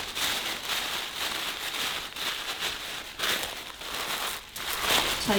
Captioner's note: tissue crinkling